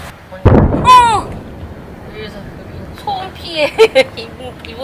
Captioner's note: artillery sounds suddenly audible